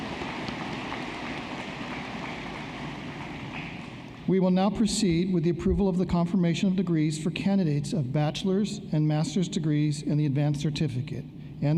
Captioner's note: applause